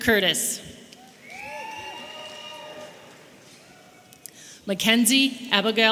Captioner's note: audience cheering